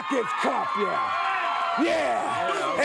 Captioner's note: crowd cheers